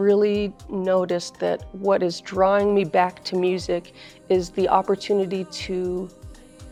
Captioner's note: speaking in foreign language